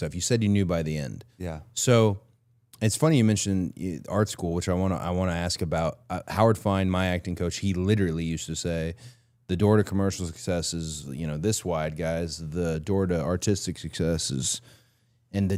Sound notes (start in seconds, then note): none